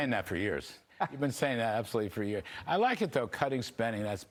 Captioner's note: laughter